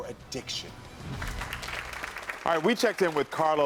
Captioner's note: audience claps